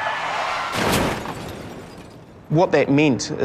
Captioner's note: metal crunching